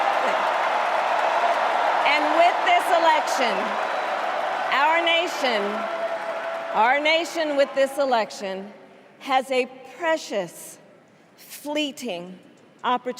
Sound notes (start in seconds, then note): 4.1 cheers and applause